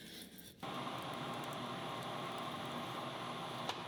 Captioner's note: lathe whirring